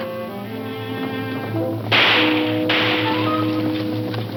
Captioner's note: gun shooting; tense instrumental music